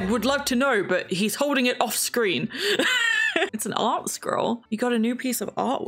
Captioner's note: laughs